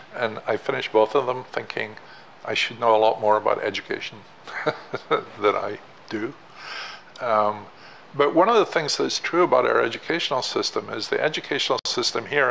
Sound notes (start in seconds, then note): 4.5 laughing